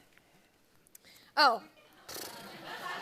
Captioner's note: laughter